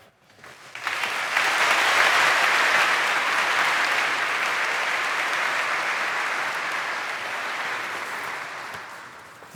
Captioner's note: applause